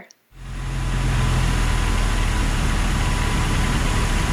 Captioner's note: plane engine roaring